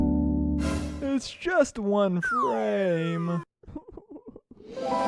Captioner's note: sobs